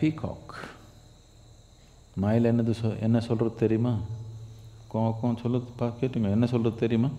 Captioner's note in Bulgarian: Говори на тамилски